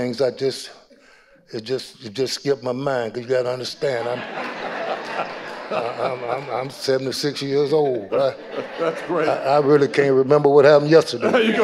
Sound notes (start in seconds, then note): 4.5 audience laughing; 8.3 chuckling